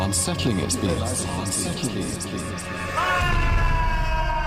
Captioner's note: voice echoes